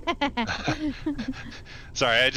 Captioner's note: laughing